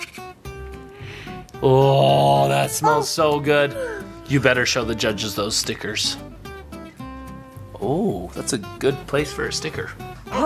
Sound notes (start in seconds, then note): 0.9 dad sniffs